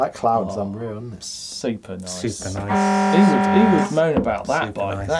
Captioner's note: horn honking